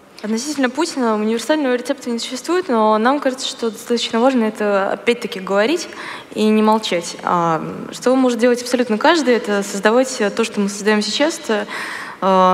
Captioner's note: foreign Language